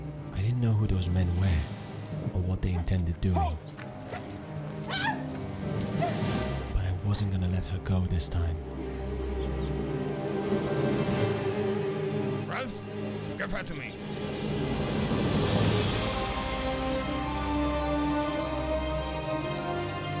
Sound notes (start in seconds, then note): 4.9 screaming